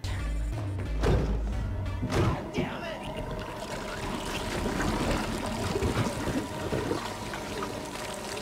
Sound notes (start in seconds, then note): 0.2 mysterious suspenseful music; 2.0 door slamming; 3.2 The Mind Flayer bubbling